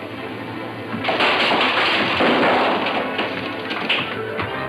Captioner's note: bottle clatters